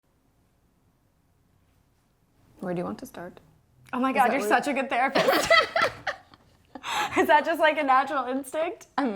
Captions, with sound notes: - Where do you want to start? - Oh my god, you're such a good therapist! (laughs) Is that just like a natural instinct?